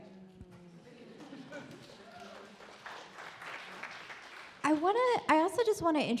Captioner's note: audience applaud